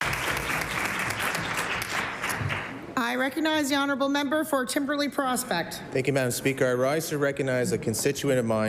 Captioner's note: applause